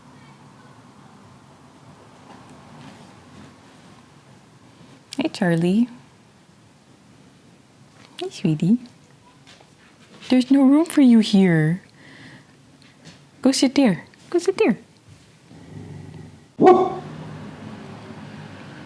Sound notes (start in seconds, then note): 15.6 woof